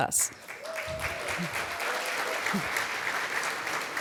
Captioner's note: applause